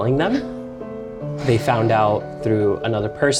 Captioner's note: sighs